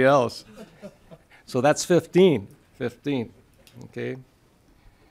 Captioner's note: laughing